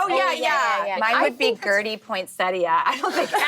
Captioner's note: laughing